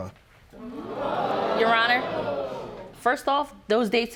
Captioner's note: audience gasping